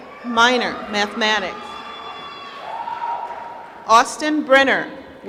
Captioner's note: applause